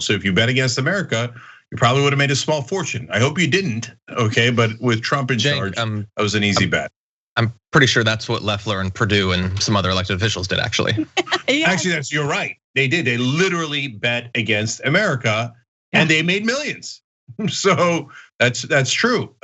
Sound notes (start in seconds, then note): 10.7 laugh